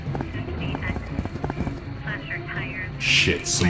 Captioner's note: police radio chatters